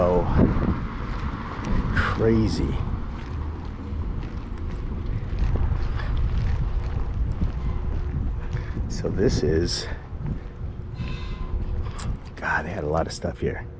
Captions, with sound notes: So. Crazy. [street noise] So this is. God had a lot of stuff here.